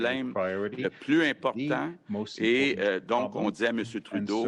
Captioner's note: speaks French